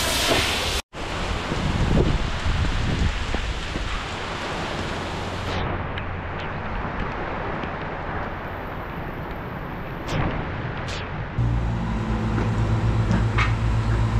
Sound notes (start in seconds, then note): 0.0 rain Sound; 1.0 wind Sound